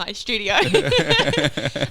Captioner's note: laughing